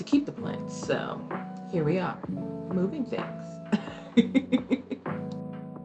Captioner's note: giggles